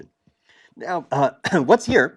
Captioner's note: cough